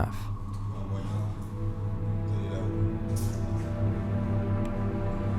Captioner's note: speaks French